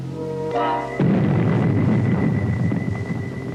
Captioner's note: rockets blasting